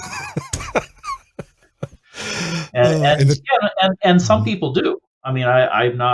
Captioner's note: laughs